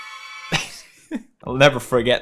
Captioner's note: giggles